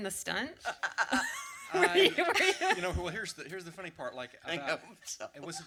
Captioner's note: laughter